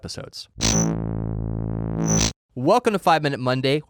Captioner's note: buzz sound